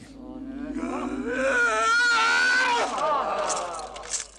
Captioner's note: groaning